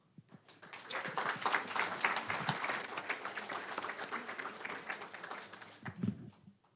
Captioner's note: applause